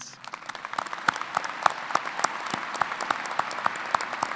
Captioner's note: applause